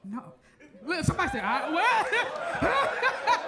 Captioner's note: laughs and grunts